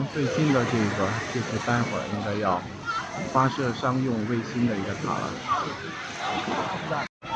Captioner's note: 英语; 英语